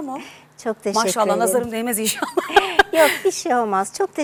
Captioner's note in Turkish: kahkaha